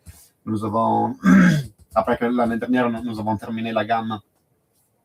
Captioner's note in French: raclement de gorge